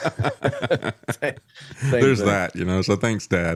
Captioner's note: laughs